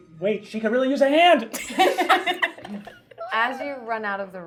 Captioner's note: laughing